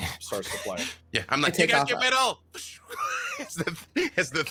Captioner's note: wheezes